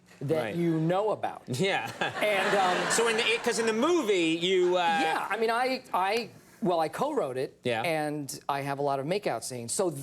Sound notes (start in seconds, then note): 1.8 audience laughs